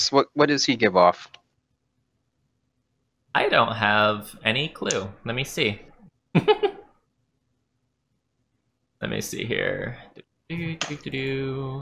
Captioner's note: giggle